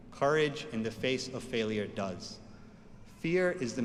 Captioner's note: none